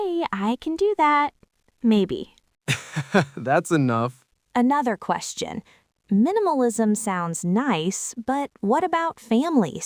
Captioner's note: laughs